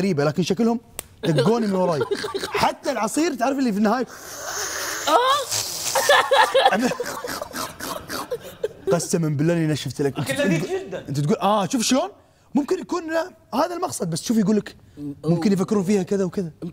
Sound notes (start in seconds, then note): 4.1 sipping; 4.1 tongue sipping; 5.0 laughing; 5.9 snort-laughing